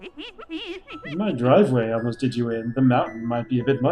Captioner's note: laughing